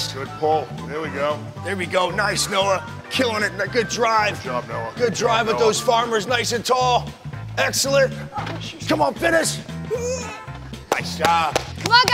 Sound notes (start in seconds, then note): 10.1 grunting